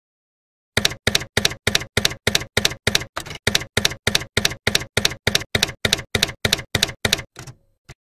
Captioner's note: typewriter keys clacking